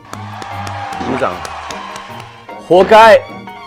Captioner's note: All fans of "Unchained Love" cheering